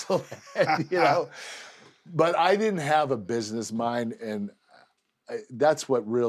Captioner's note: laugh